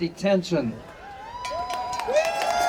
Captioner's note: audience cheering